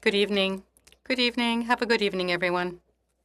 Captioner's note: speaking in French